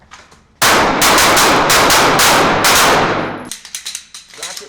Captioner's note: gunshots